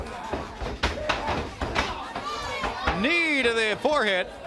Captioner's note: crowd cheering